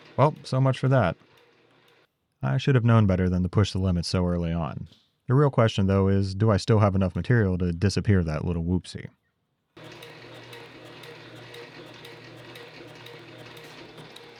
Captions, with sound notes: Well, so much for that. I should have known better than to push the limits so early on. The real question though is, do I still have enough material to disappear that little whoopsie? (machine whirring)